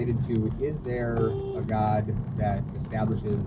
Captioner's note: warning beep